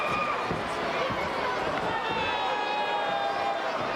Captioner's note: crowd chattering